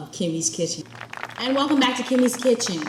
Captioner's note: audience clapping